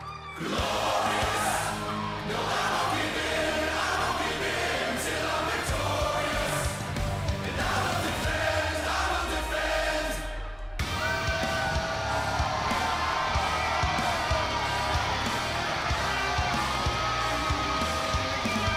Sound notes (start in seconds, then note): 3.3 crowd cheering